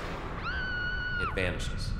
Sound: car zooming; woman screaming

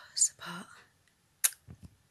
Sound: mwah

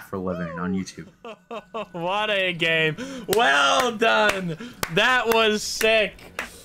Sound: clapping

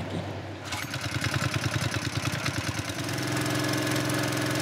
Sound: engine rumbling

